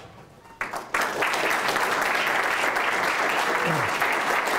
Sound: applause

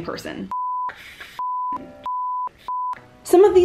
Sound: beep

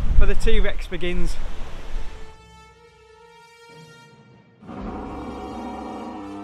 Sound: dinosaur noises

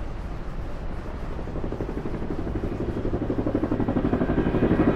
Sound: helicopter whirring

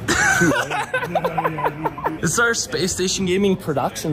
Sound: chuckles

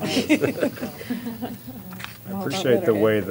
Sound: laughter

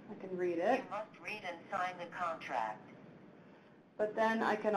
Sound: electronic Voice

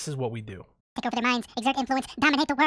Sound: video speeds up again, chipmunk voice is back

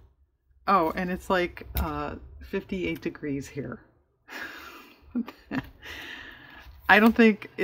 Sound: laughs

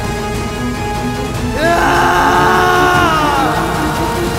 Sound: screams

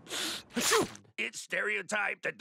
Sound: snail sneezes

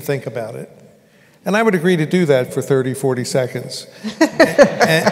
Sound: laugher

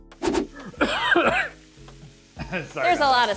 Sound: coughing

